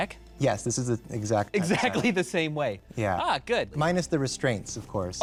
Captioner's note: laughs